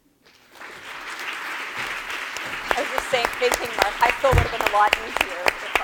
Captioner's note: applause